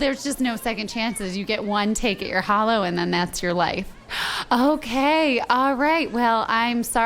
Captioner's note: deep breath